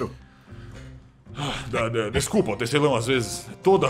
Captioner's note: sighs